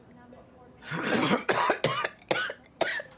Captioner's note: coughing